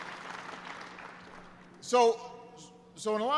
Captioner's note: applause